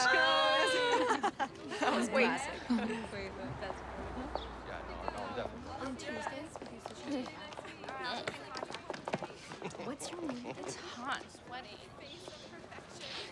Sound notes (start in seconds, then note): 0.6 laughter; 4.2 students chattering